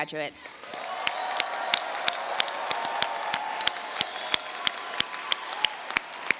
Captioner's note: audience applauds and cheers